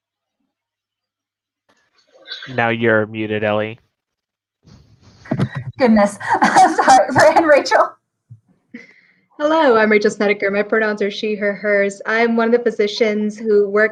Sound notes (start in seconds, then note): 6.1 laughter